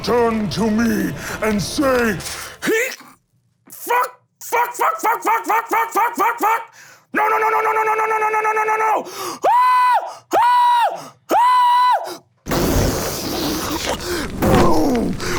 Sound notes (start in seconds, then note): 9.9 high pitched screaming; 12.4 explosions